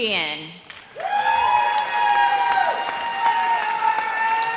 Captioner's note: audience cheers